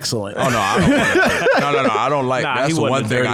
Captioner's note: laughing